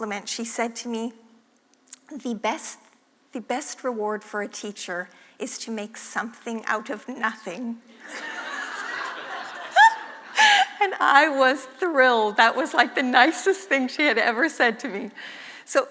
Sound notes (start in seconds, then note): 8.0 laugh